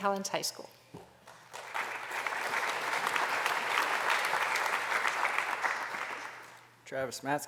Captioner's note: applause